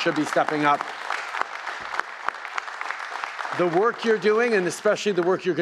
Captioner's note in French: Applaudissements